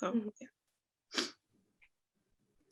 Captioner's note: sniff